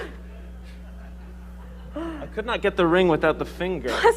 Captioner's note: laughs